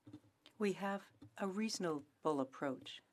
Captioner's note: speaking French